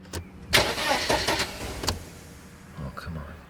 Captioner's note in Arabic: يختنق المحرك